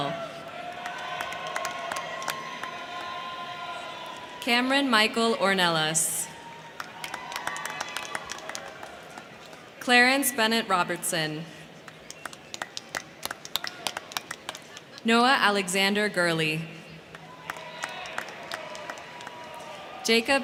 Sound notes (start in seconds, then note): 0.0 crowd cheering; 0.4 crowd clapping; 6.2 crowd cheering; 6.4 crowd clapping; 11.5 crowd cheering; 11.8 crowd clapping; 17.0 crowd clapping; 17.0 crowd cheering